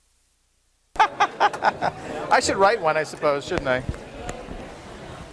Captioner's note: laughs